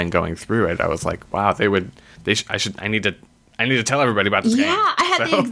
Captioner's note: laughs